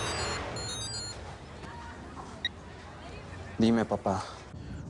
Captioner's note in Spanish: Suena el celular